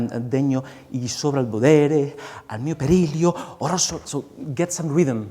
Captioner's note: speaking song lyrics in a foreign language